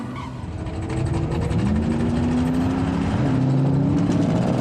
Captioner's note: engines revving